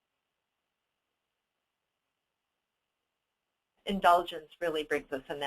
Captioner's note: dead air